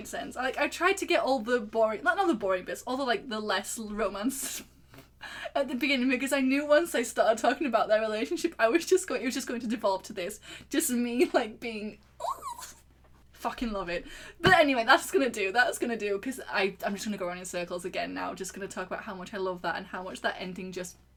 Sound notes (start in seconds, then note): 12.2 squee